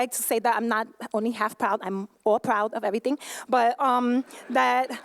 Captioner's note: laughter